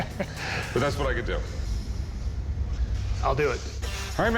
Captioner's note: both chuckle